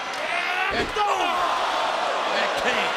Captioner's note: applause